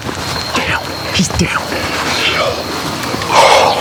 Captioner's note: whispering